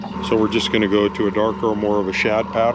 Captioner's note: boat engine idling